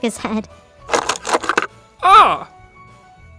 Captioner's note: stuff clattering